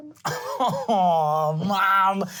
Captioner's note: laughing